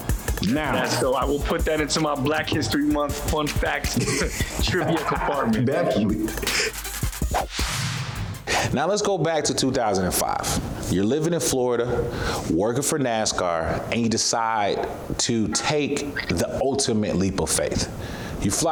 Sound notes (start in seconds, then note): 3.7 laughing; 7.0 whooshing sound